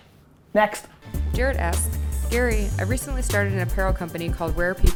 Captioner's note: voiceover